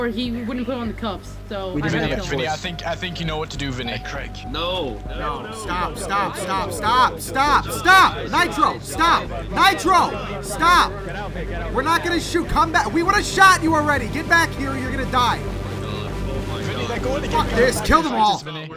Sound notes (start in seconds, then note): 9.7 yells; 15.6 music intensifies